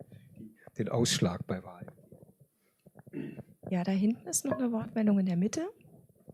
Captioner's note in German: räuspern